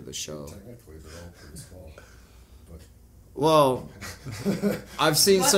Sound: chuckle

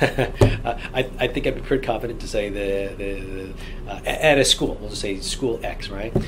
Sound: laughs

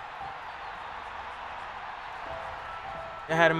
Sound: crowd cheering

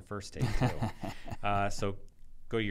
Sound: laughing

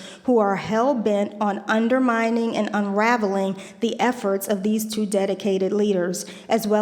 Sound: none

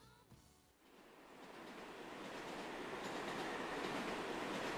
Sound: train chugging

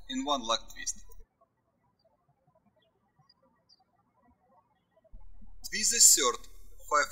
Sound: birds chirping

